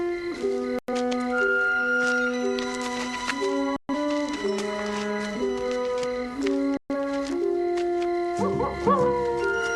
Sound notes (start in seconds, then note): 8.4 wolf howling